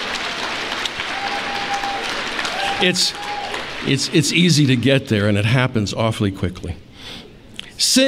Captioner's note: applause